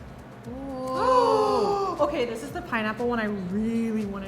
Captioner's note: gasps